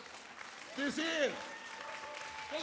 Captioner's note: audience applauds